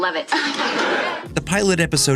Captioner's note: laughing